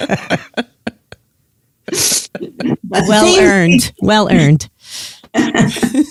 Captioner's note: laughs